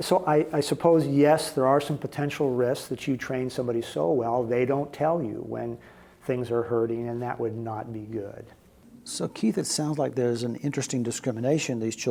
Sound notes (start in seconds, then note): none